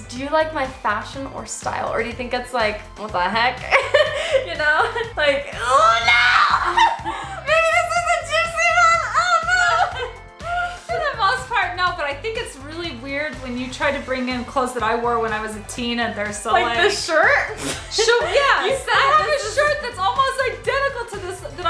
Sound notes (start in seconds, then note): 3.6 laughs; 8.6 laughing; 17.4 laughs